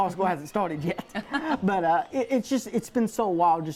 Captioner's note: both laugh